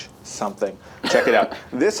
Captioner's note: laughs